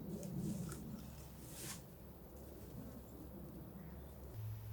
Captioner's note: soil shifting